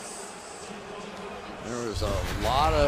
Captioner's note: pa announcement